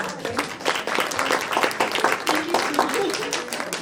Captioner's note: applause